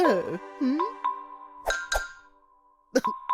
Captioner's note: ding-ding